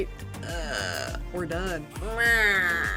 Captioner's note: moans